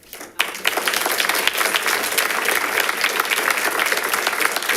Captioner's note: audience applauding